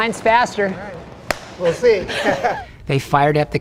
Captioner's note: clap